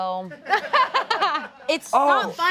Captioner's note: all laugh